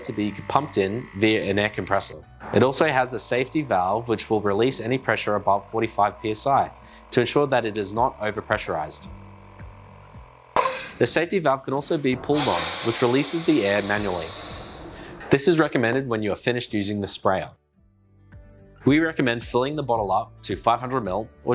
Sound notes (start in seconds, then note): 9.1 air compressor buzzing; 10.5 pressure releasing